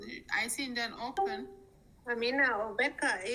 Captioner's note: screen chime